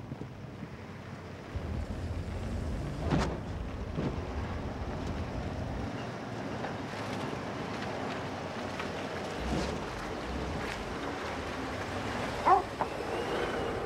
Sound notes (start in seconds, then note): 12.4 Striker barking